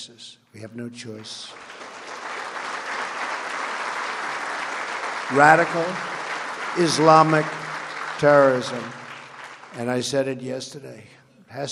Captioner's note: applause